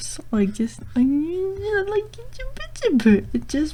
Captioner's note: high pitched nonsense